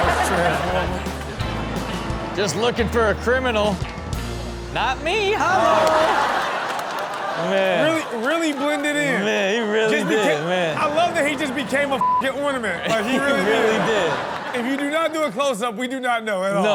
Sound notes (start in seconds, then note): 0.0 crowd laughing; 5.9 audience comment and laugh; 12.0 beep